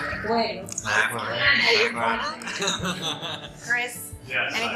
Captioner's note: laughs